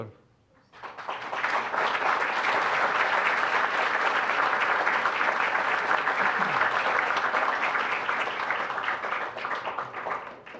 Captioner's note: applause